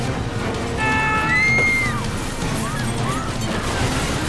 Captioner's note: passengers screaming